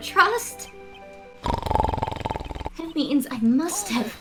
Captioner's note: snoring